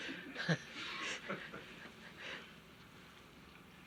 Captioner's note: laughter